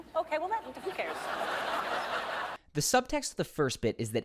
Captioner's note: audience laughs